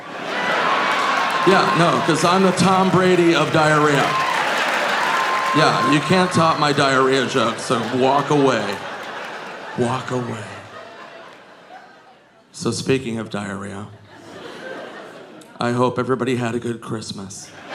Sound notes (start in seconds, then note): 0.2 audience laughing; 5.0 audience cheering